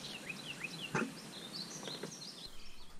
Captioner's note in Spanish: pájaros